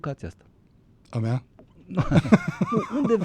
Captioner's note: laughter